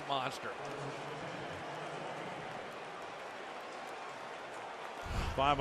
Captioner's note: pa announcement